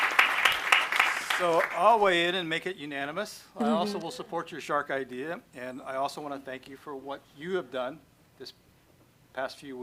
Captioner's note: applause